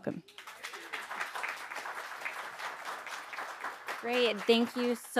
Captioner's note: audience applauding